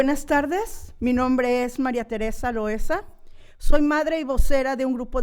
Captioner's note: speaking in foreign language